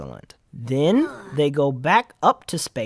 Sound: sighs wearily, because it's about to get even worse

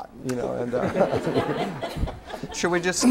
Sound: laughter

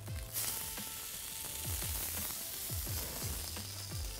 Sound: pan sizzles

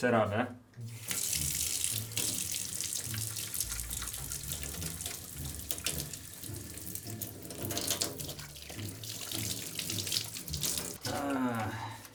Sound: water running

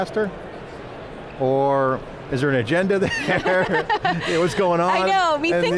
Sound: laughs

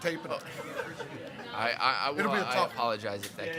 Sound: attendees chattering

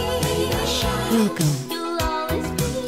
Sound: automated Voice

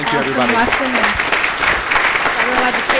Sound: applause

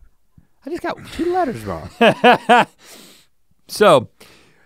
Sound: Rhett laughs

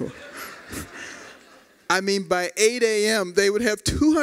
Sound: laughter

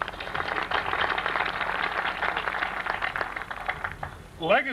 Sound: applause

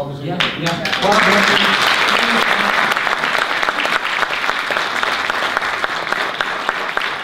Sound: audience applause

